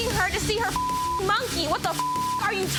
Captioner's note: beep